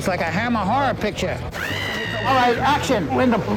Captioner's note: screaming